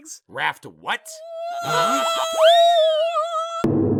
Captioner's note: silver spoon screams